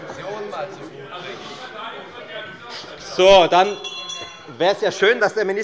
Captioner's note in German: Anhaltende Unruhe - Glockenzeichen der Präsidentin